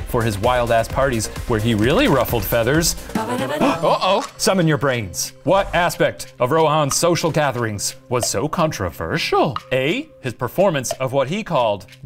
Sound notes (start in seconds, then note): 3.2 game show jingle; 3.5 gasps